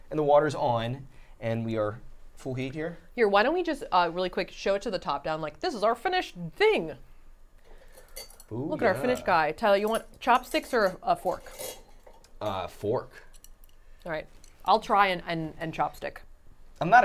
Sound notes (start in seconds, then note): none